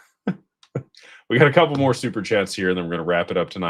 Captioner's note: snorts